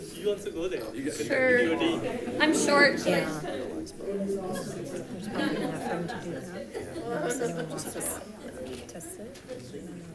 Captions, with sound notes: - Sure. I'm short, so I just kinda. (crowd chatting)